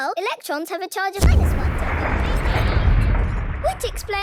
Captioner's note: distant explosion